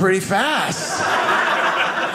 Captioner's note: audience laughing